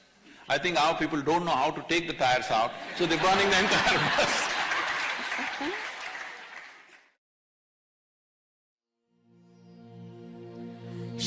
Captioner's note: laughter